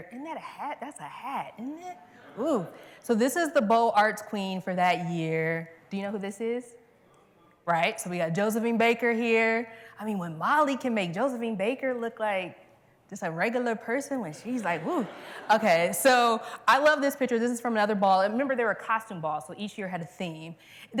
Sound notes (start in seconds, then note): 14.7 laughter